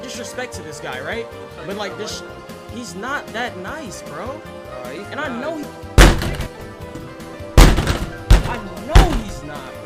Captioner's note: slam desk